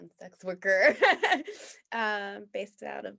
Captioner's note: laughs